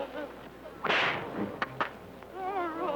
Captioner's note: whip cracking